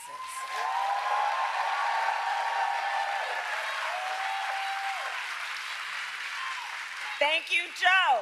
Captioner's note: applause